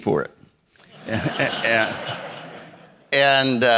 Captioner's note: audience laughing